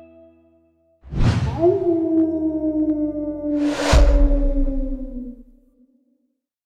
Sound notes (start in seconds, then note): 1.5 coyote howling